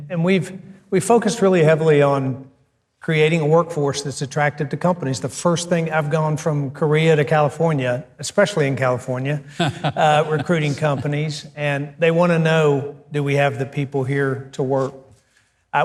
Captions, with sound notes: And, we focus really heavily on creating a workforce that's attractive to companies. The first thing I've gone from Korea to California, especially in California, (Mike laughing) recruiting companies. And, they wanna know, do we have the people here to work,